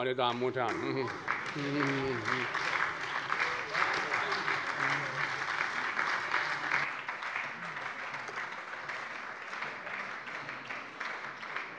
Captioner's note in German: Beifall bei der SPD